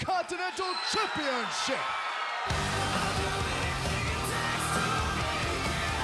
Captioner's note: crowd cheering